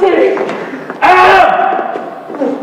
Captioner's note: German officer's aide clears throat aggressively; girls burst in laughter